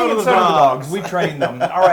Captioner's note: laugh